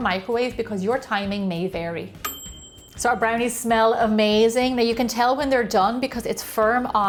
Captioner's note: ding!